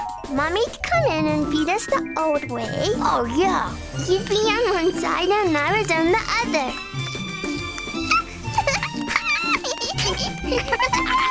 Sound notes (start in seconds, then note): 8.0 giggling